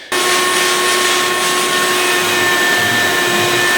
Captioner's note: loud vacuuming